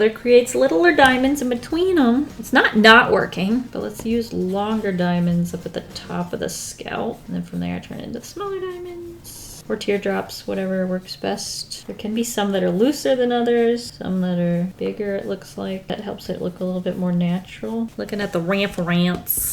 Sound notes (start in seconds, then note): none